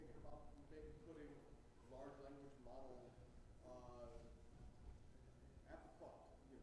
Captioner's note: faintly speaks